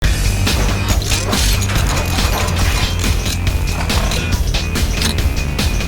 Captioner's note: upbeat music; machinery clacking